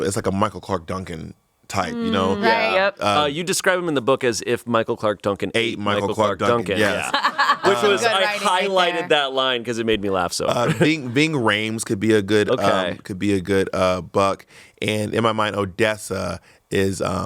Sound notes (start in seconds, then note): 6.7 everyone laughs